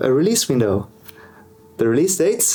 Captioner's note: finger snap